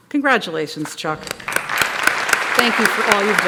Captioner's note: applause